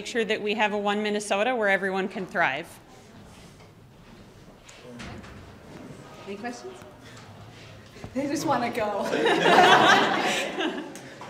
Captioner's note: laughter